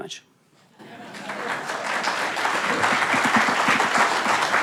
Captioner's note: audience clapping